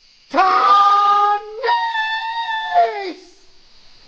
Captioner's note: howling